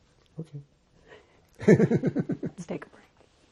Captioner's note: laughing